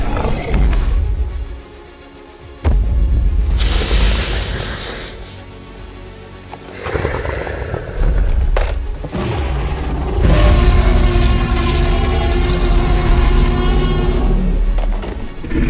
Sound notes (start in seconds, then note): 1.4 Indominus Stomping sounds and growls; 9.0 Omega Rex growls and roars; 15.0 Omega Rex and Indominus fighting sounds